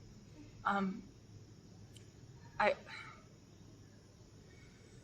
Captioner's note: sighs